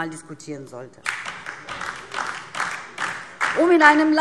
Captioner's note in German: Beifall DIE LINKE